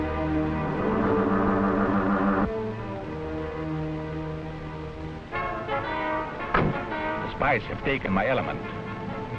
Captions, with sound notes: (devisualizer humming) (metallic thudding) - The spies have taken my element.